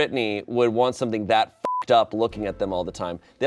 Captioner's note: beep